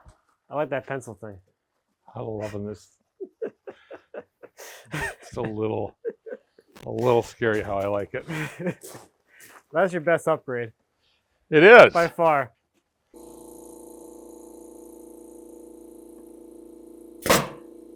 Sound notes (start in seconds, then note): 3.2 speaker laughing; 8.2 speaker laughing